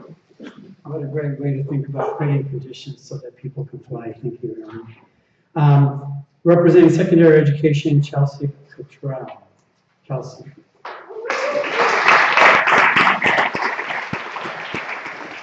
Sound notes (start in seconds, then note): 10.8 applause